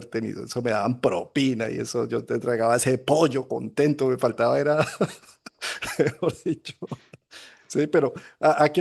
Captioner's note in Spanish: risas